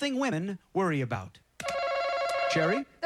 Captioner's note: chime